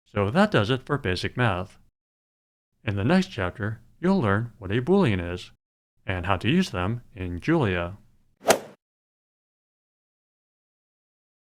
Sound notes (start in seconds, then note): 8.4 swoosh